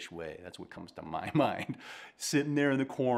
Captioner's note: chuckling